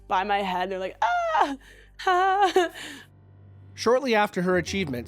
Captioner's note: giggles